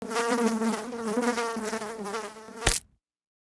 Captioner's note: fly buzzing; fly splatting